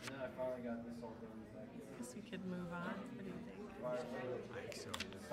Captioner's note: low chatter continues